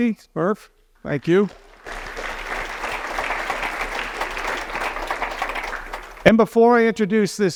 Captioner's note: applause